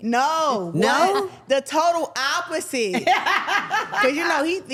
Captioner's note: everyone laughs